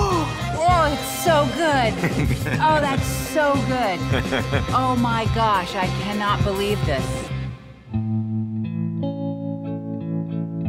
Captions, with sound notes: - Oh, it's so good. (Henry laughing) Oh, that's so good. (Henry laughing) Oh my gosh. I cannot believe this. (gentle music)